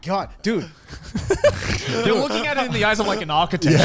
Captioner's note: laughing